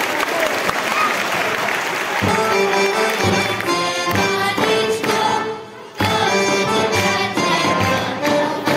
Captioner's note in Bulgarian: аплодисменти